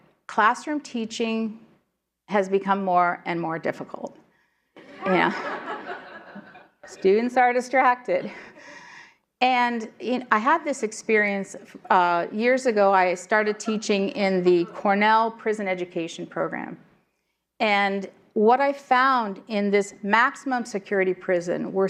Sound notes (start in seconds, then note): 4.8 laughter